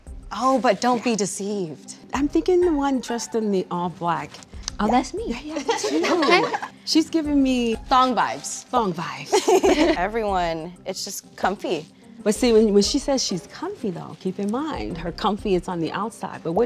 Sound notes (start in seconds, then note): 9.2 all laughing